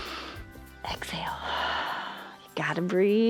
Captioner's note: exhales; inhales